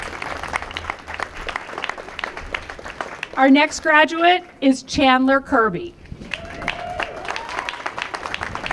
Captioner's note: applause